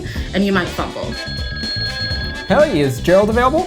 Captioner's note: phone ringing